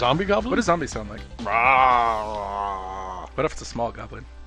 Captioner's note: growling like a zombie